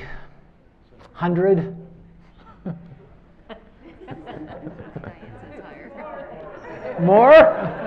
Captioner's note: laughter